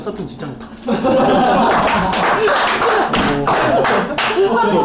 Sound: humph

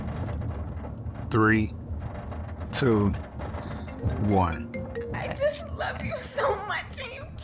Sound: phone ringing

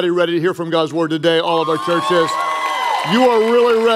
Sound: congregation cheering

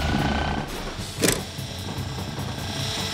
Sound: shift clicks

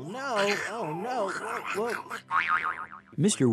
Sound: grumbling

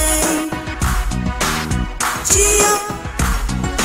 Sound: clap

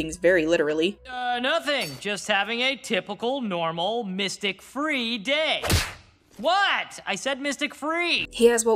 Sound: slap

